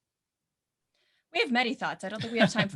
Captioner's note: laughs